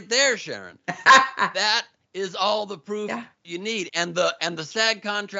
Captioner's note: laugh